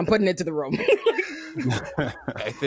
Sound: both laughing

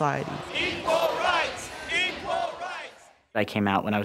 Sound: crowd chanting

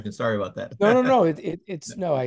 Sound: laugh

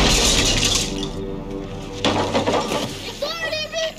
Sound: shotgun blast

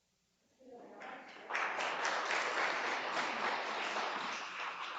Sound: audience applauding

